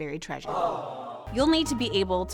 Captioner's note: crowd groans